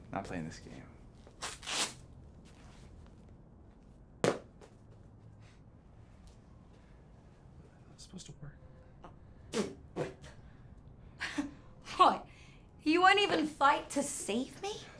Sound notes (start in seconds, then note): 4.2 glove falls to ground; 9.5 spitting out gag